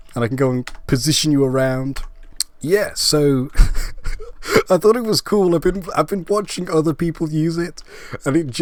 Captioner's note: laugh